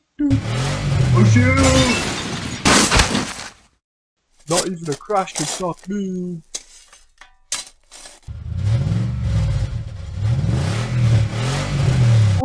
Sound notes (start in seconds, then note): 0.8 smash; 2.6 crash; 8.3 truck revving